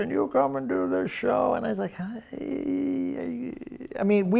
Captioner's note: groaning